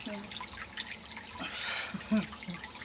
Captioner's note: laughing